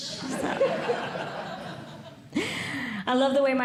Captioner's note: audience Laughing